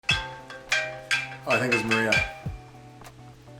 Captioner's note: phone ringing